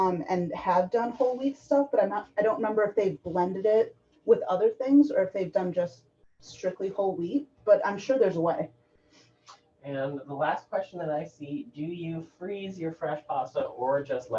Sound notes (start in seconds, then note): none